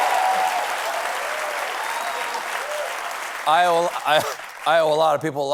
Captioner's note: applause